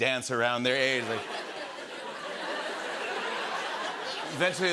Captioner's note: laughter